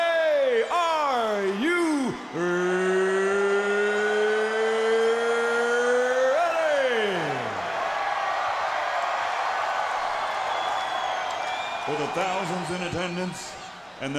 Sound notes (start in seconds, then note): 6.6 crowd cheering; 10.8 crowd chatter